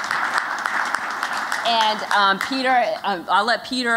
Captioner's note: �applause�